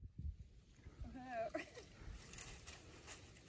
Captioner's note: laugh of disbelief